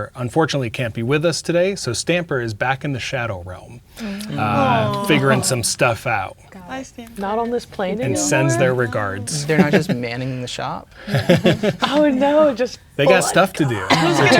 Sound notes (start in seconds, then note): 11.1 laughing